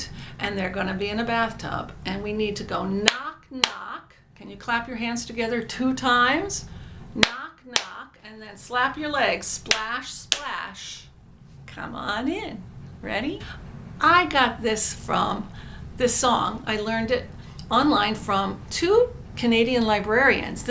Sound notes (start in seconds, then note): 3.8 claps; 10.5 slaps legs